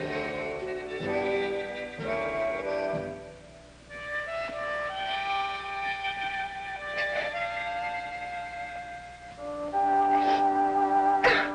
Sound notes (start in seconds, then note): 8.5 crying